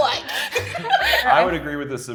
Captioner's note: contestants laughing